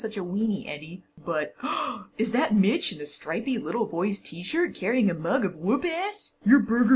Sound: gasp

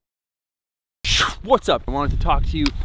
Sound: makes whooshing sound

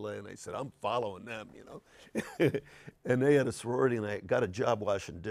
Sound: laughs

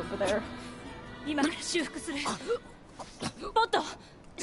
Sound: 9S dying noises

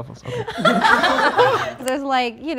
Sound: all laughing

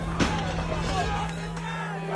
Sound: yelling; glass shattering

